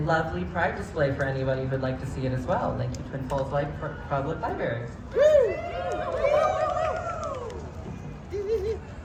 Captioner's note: cheers